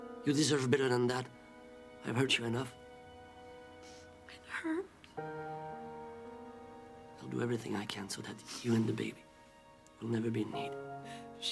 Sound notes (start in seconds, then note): none